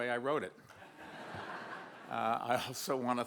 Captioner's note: audience laughs